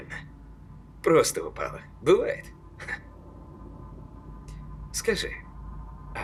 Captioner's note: laughs